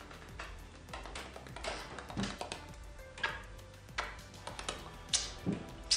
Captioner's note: poupoupou kisses